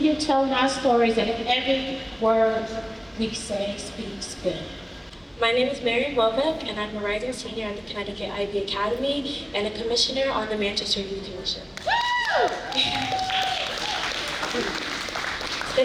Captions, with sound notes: telling our stories and if every word we say speaks good. My name is Mary Wobbe, and I'm a writer, a senior at the Connecticut IB Academy, and a commissioner on the Manchester Youth Initiative. (cheering)